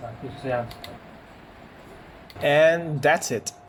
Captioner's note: sound when the TV remote is clicked